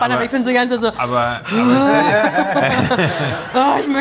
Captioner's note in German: Gelächter